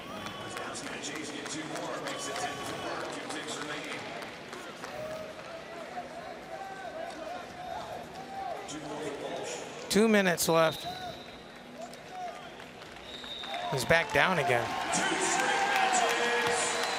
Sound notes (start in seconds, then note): 1.8 crowd cheering; 14.8 crowd cheering